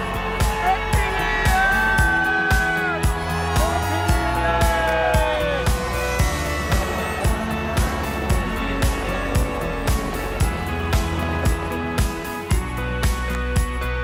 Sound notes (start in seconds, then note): 3.5 cheering; 6.3 fireworks crackling